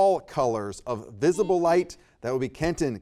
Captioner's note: buzzer beeps